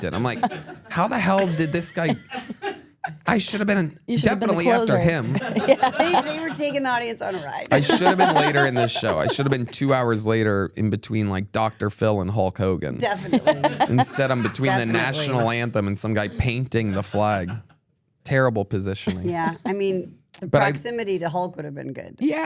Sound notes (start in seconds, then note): 13.0 laughs